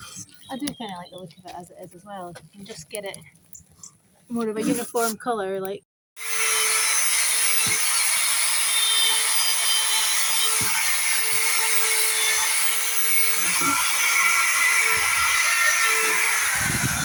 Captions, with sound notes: I do kind of like the look of it as it is, as well. If we can just get it more of a uniform colour. Like... [Drill motor]